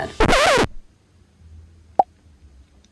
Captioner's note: brakes squeaking; bubble popping